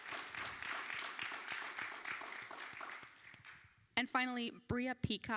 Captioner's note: applause